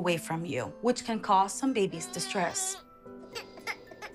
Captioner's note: baby crying